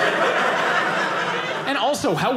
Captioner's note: audience laughing